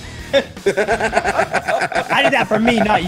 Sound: laugh

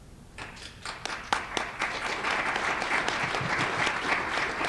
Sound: applause

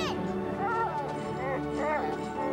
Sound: whimpering

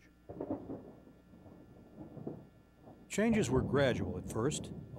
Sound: thunder rumbling

